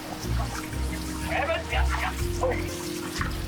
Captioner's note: speaking Dutch